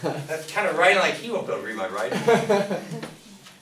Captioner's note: laughter drowns out speaker; class laughs